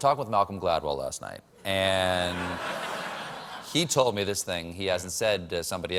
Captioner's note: laughter